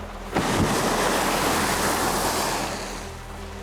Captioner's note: whooshing